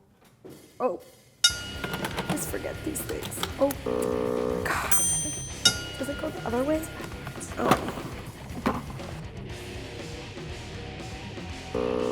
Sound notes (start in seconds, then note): 1.4 ding; 3.6 buzz; 4.9 ding; 9.4 intense music